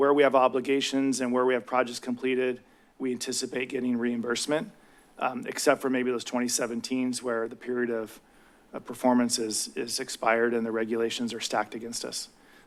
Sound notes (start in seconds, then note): none